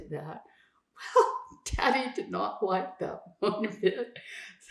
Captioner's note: laughing